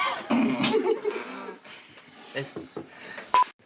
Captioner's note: laughing